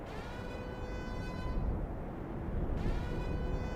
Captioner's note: radiation siren